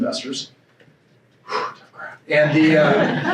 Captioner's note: laughs